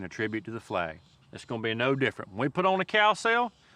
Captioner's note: none